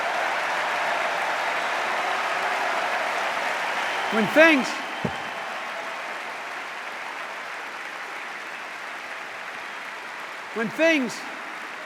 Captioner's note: cheers and applause